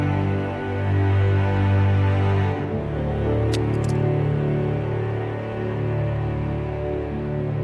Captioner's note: somber music continues; paper frog flipping